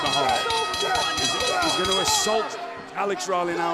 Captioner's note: bell ringing